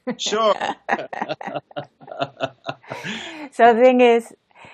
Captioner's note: laughter